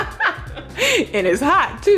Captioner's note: laughing